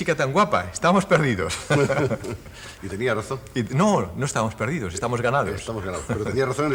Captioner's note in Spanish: risas